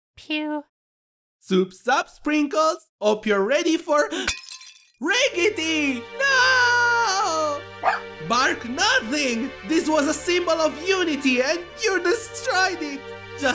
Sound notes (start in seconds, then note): 4.0 gasp; 4.2 bowl shatters; 7.8 sprinkles barks